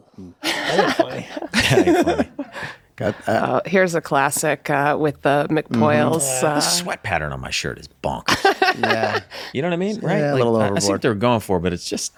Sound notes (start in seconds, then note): 0.4 laughs; 3.0 group laughs; 10.2 group laughs